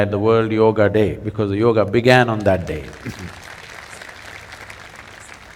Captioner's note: applause